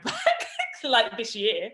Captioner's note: laughs